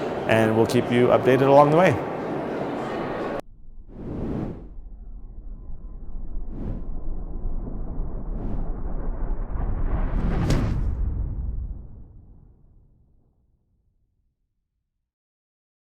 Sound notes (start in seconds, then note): 4.0 air whooshing